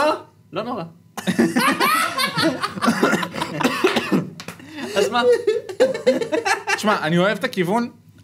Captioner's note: laughs